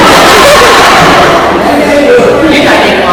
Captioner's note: laughs